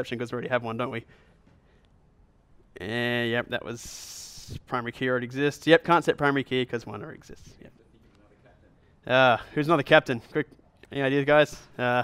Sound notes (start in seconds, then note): 7.6 voiceover